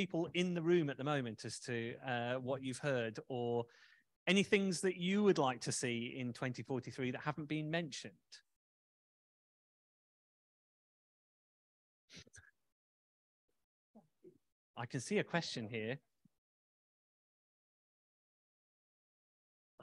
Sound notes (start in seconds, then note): 11.3 silence